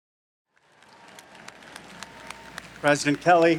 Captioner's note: audience applauding